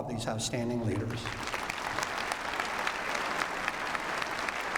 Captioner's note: applause